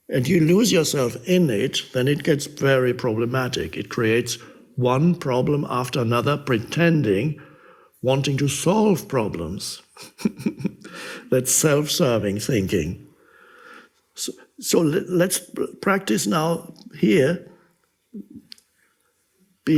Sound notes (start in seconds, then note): 9.9 laughs